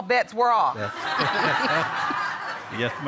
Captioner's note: all laughing